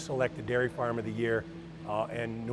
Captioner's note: machinery hums